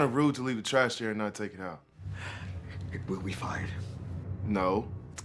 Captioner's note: inhales